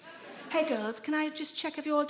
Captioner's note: smug voice